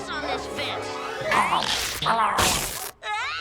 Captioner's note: dogs growling; fabric ripping